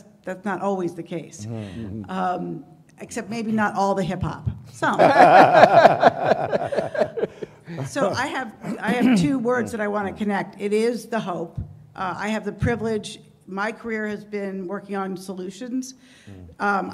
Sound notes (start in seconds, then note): 4.9 laughter